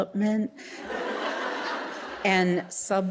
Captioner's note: audience laughing